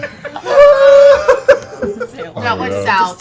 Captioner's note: laughing